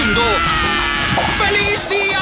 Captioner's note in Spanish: Garu grita